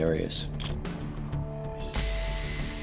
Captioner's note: camera shutter click